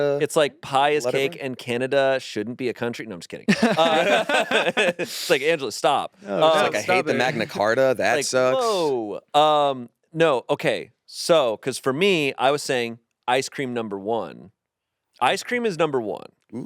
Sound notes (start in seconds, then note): 3.5 all laughing